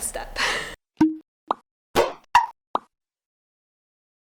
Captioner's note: letters popping